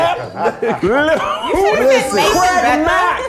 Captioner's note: laughing; overlapping chatter